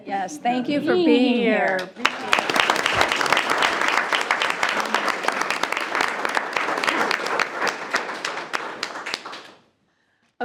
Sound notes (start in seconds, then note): 1.6 group applauds